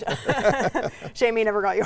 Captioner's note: both laugh